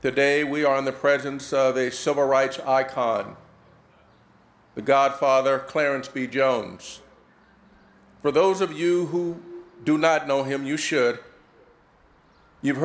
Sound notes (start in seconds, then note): none